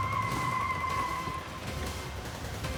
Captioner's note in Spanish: chirrido de neumáticos